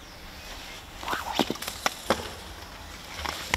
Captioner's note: whooshing noises, cracking